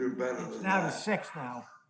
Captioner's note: male Voice